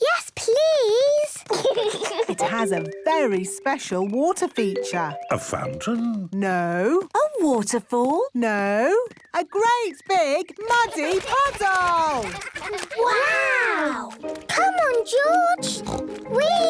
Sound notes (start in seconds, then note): 10.7 splashing